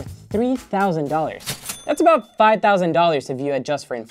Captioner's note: cha-ching